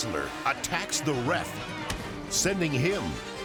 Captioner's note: head thumps